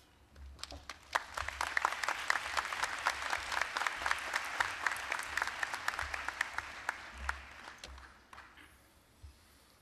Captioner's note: applause